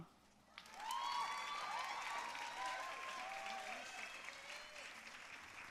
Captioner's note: audience cheering and applauding